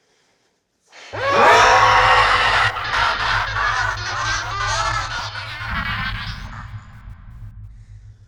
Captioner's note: Mattie lets loose an angry pterodactyl scream